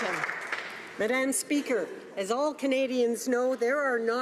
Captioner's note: applause